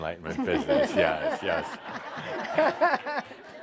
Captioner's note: laughter